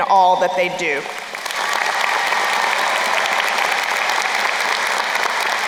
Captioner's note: crowd applauding